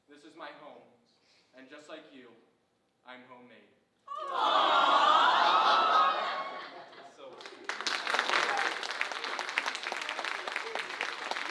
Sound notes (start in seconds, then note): 4.1 group awing; 7.2 audience applauding